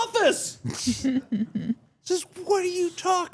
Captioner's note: laughing